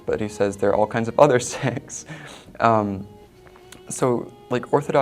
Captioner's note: laughs